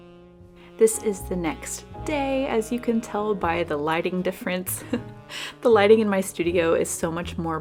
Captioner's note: laughs